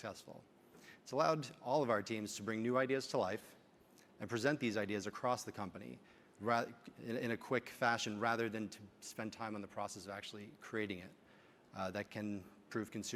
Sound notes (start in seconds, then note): none